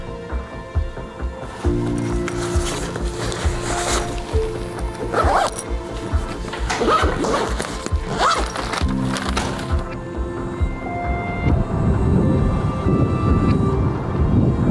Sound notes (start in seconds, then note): 0.2 mellow music; 5.4 zippers zipping; 11.2 wind blowing